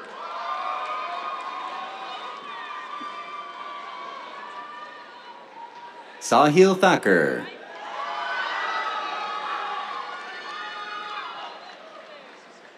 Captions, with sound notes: [CHEERS, APPLAUSE] Sahil Thakur. [CHEERS, APPLAUSE]